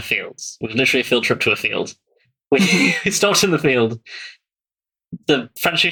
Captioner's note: laughts